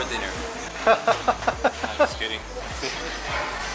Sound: laughter

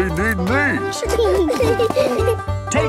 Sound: laughing

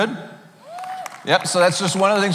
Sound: cheering

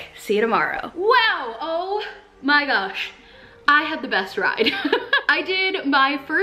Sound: giggles

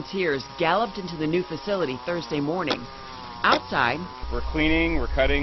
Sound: sound of weed eater

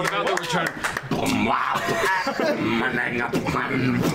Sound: beatboxing

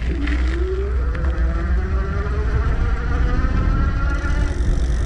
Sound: motor whirring

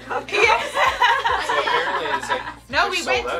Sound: everyone laughs

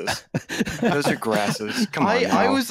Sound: laughter

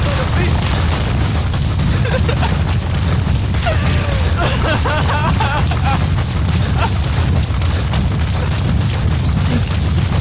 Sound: Chico cries

